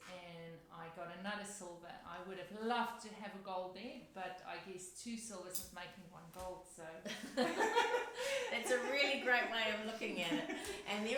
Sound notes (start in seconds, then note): 7.1 laughs